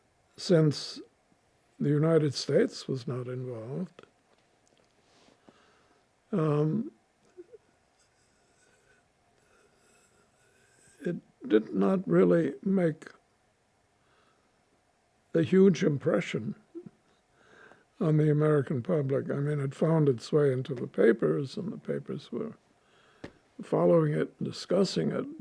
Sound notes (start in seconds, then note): 3.9 pauses 6 seconds; 15.7 laughing